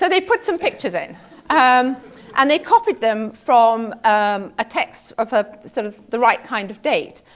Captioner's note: laugh